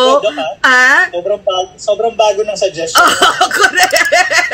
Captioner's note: laughter